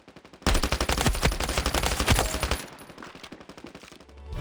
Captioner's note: gun fires